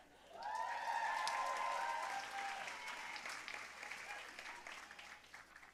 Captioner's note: audience cheering and applauding